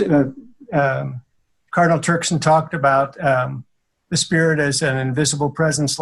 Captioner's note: laughing